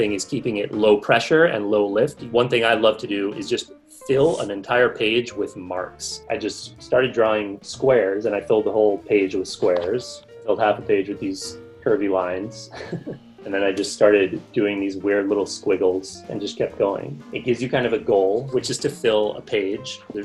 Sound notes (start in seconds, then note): 12.6 chuckles